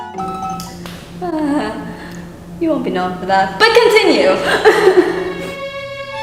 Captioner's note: nervouly laughs